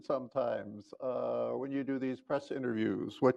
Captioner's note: chuckles